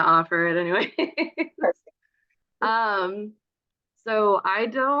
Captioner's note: chuckles